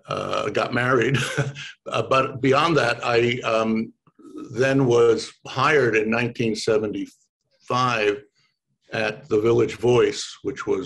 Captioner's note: laughs